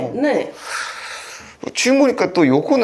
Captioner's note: hmm